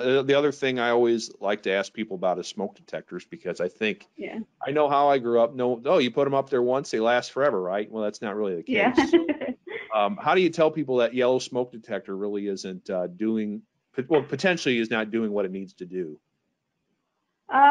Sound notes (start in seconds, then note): 9.9 chuckling